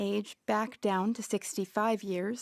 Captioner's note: speaking French